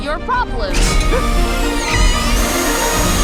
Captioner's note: metal clanging and whirring; Fink screeching